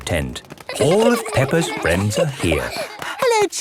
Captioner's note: excited babbling